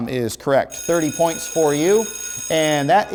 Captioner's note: bell ringing